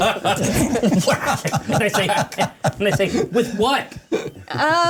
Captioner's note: laughter